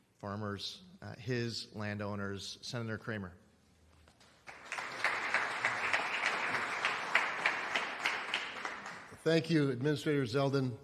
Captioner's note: applause